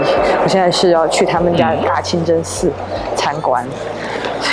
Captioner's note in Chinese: 嗯？